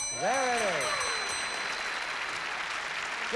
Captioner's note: applause